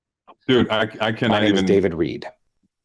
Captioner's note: AI voice